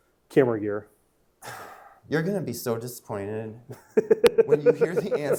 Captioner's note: sighs; laughing